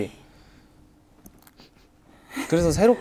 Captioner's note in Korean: 훌쩍